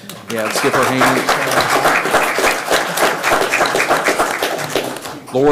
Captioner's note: everyone applauding